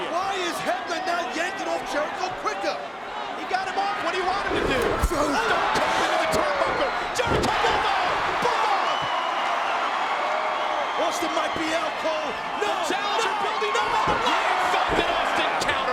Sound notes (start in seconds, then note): 9.4 audience cheers